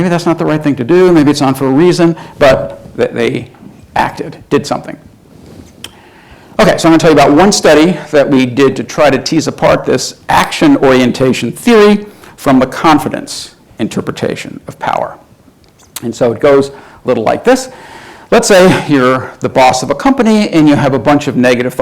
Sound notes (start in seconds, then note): none